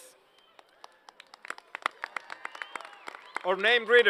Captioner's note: applause